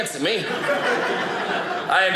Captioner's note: audience laughing